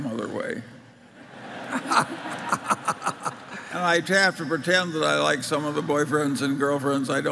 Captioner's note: Laughter